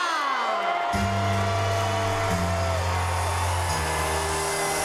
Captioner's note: spectators cheering